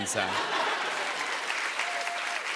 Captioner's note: laughter and applause